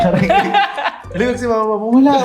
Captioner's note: laughs